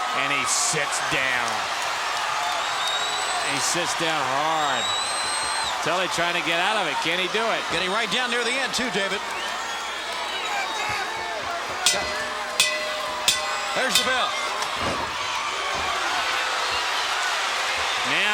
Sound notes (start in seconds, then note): 11.8 bell ringing; 16.6 crowd jeering